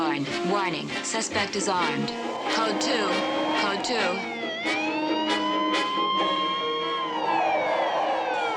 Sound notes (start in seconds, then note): 4.5 siren wailing